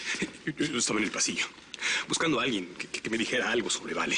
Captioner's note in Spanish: Tartamudeo